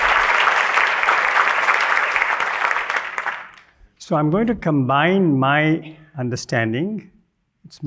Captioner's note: applause